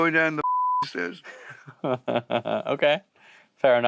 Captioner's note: chuckles